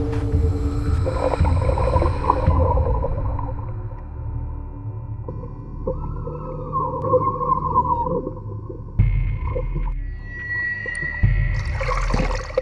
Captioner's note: water gurgling; water splashing